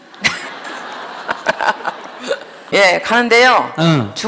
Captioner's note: questioner/Audience Laughter